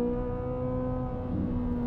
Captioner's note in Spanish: Sonido del motor